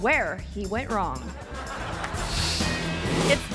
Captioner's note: audience laughing; screen whooshes